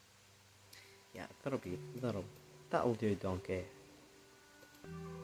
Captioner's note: Shrek accent